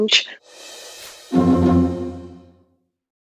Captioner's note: cnn logo sound